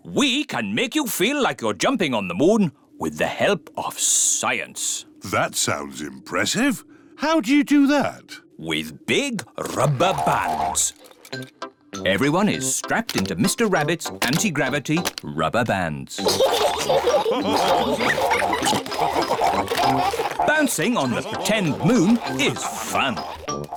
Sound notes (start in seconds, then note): 16.2 all laugh